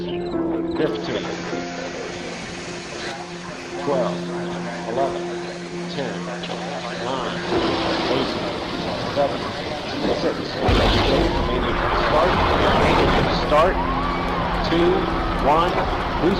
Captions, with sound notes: 15 (airplane engine roaring) 12, 11 10, nine, eight, seven, six. (rocket launching) start, two, one,